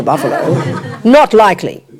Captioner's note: audience laughs